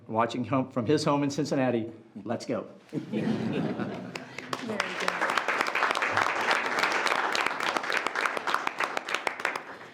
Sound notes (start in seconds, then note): 2.9 group laughs; 6.5 audience applauding